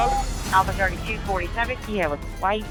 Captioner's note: voices on radio